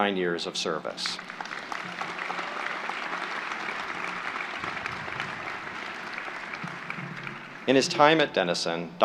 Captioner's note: applause